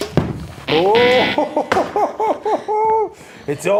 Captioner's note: chuckles